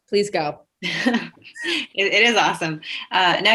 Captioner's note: laughs